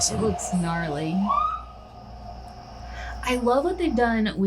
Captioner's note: siren blaring